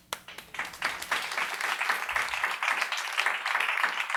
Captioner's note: applause